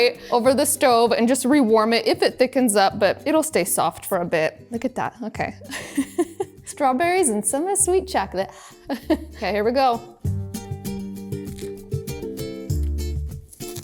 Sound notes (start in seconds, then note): 5.7 laughs; 8.9 giggles; 10.4 gentle upbeat music